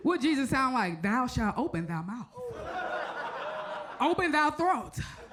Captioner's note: audience laughs